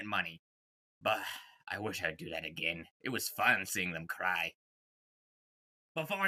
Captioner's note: sigh